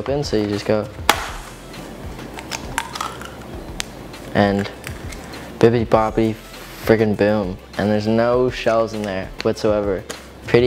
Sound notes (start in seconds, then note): 2.2 egg cracks